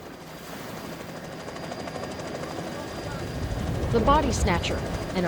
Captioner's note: helicopter blades whirring